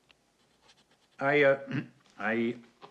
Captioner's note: clears throat